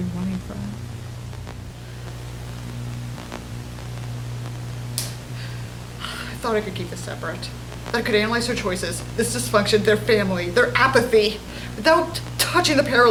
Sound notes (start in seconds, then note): 6.1 static continues